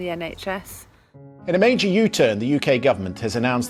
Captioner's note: rolling news audio